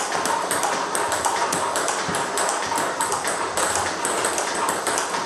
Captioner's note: ball ping pong hitting continues